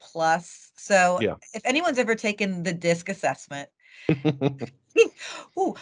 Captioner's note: laughing